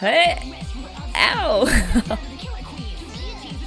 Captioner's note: laughs